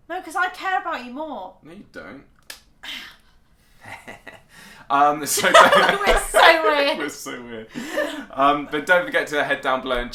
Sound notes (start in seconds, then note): 5.4 laughs loudly